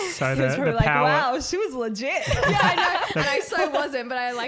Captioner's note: laughing